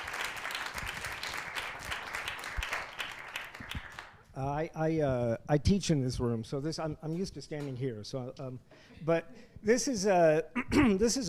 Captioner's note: applause